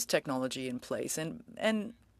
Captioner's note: speaking French